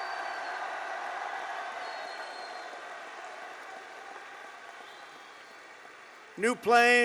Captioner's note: applause